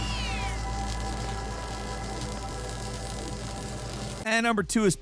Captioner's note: spark crackling